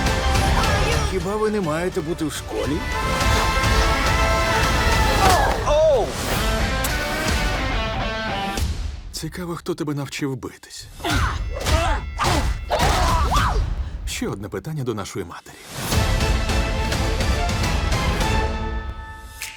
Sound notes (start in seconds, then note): 6.0 rock music playing; 11.0 all grunting; 15.7 dramatic music playing; 18.2 music fades